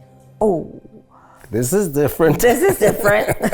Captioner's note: laughs